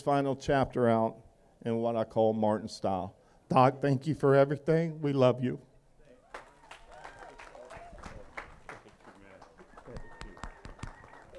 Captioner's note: applause